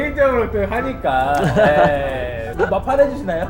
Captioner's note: teary